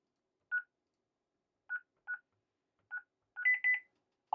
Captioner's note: beeping